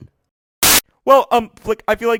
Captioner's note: static